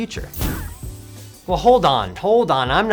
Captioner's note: poof noise